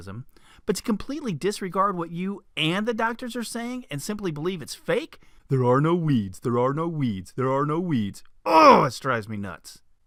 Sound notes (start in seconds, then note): 5.3 sarcastic voice; 8.1 normal voice